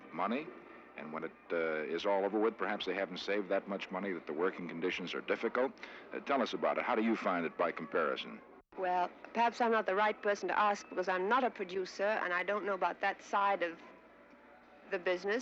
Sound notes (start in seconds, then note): none